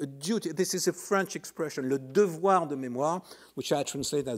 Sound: speaking in foreign language

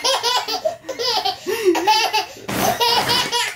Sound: laughing

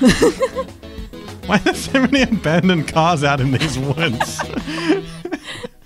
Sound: laughing

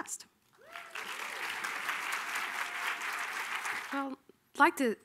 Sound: audience applauding

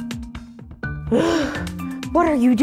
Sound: sighing

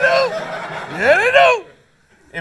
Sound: laughter

